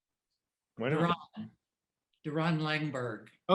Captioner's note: speaking faintly